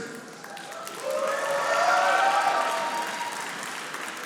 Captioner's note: audience applauding